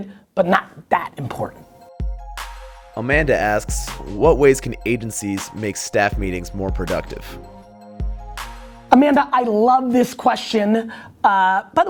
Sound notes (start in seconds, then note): 3.0 voiceover